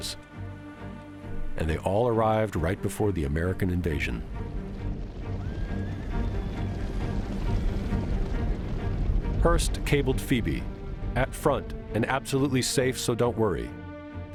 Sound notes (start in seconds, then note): 4.3 horses galloping, whinnying